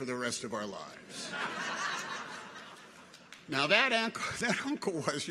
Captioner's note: people laugh